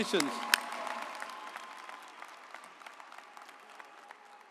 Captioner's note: audience applauds